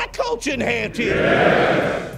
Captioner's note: acclamation